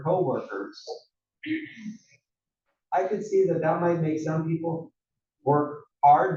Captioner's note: cough